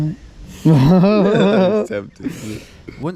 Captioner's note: both laughing